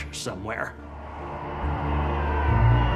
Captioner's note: crowd cheering